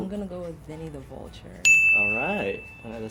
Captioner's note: bell chimes